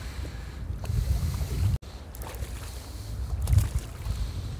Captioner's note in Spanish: Olas y pez nadando